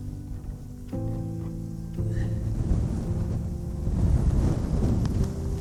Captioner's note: wind rustling